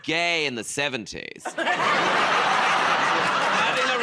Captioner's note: laughter